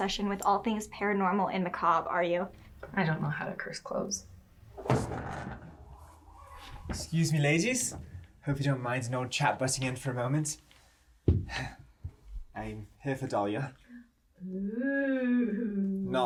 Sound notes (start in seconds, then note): 4.8 door thuds; 11.4 sighs